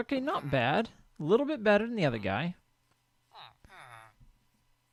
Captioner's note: chattering continues